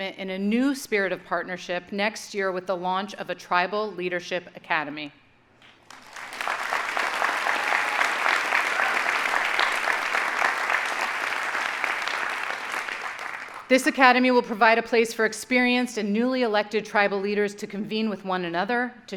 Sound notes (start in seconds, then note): 5.8 audience applauding